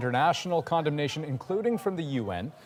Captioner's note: crowd noise